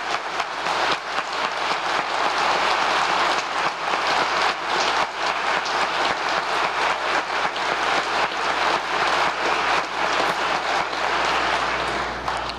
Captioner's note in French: applause